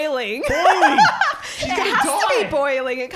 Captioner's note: laughing